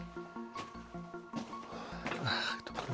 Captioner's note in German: schnauben